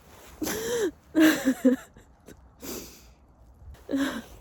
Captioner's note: sniffles; grass crunches underfoot; inhales sharply; chuckles; chuckle-sighs